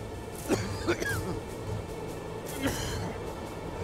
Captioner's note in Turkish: Bamsı öksürme sesi